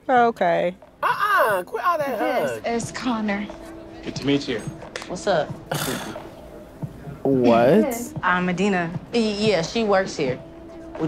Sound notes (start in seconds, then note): 5.7 scoffs